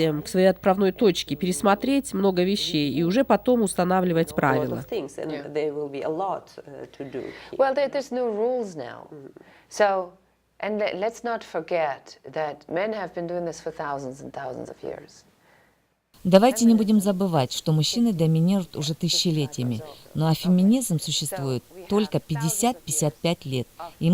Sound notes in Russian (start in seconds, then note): 4.8 Разговаривают на английском